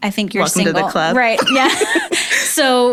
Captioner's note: both laughing